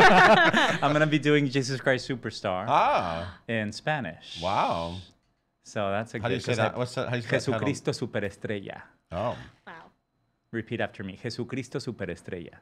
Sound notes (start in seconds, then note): 0.0 laughing; 6.6 speaking in foreign language